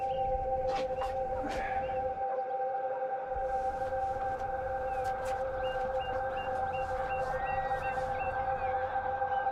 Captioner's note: birds chirping